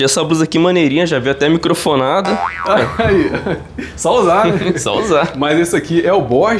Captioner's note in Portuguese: risadas